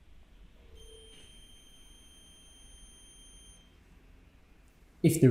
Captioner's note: high-pitched tone